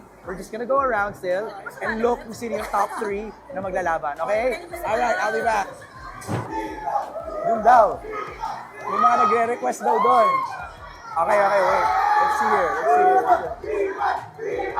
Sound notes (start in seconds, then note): 6.2 crowd; 12.4 crowd cheering